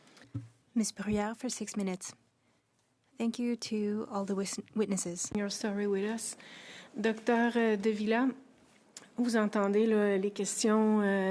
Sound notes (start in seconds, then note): 2.7 speaking French